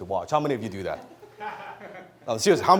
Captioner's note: audience laughs